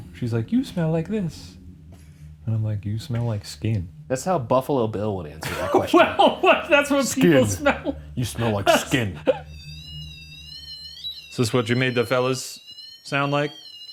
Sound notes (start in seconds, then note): 5.4 laughs; 9.8 continuous beeping; 13.7 continuous beeping